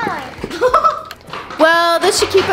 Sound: child laughs

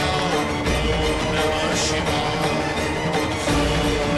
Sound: chant

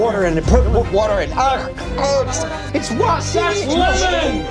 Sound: groans

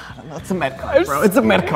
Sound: none

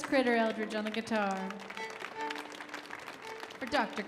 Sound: audience applauding

